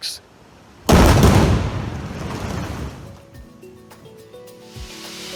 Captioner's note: explosives booming; bright gentle music